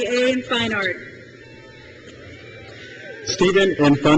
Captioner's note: crowd cheers